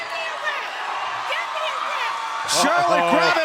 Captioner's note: shouting